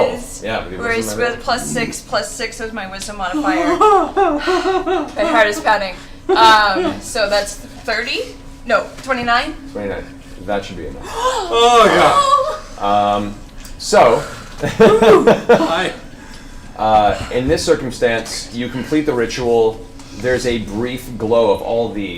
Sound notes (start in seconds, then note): 14.6 laughs